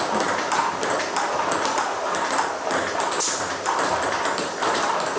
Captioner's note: ball ping pong hitting continues